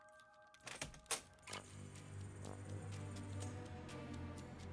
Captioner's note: door creaks